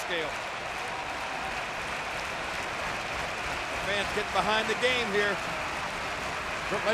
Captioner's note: applause